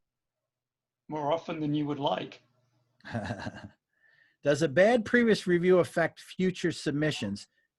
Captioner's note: laughing